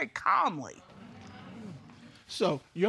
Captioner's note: audience agreeing